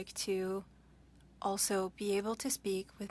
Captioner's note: speaking French